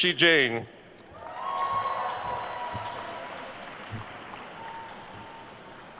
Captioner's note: attendees cheering and applauding